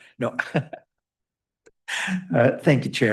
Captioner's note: laughter